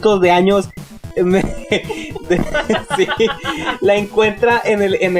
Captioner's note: chuckles